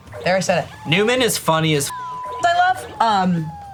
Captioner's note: beep